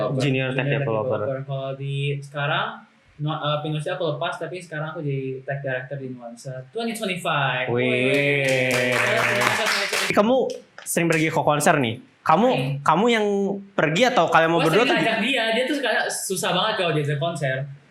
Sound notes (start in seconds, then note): 7.9 cheers